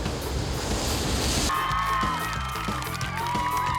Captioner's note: cheers and applause